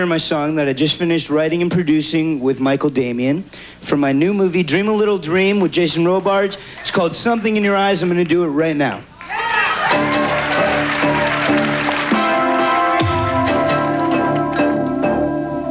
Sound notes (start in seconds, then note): 9.2 audience cheers